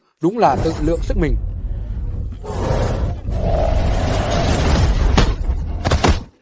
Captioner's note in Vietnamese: rên rỉ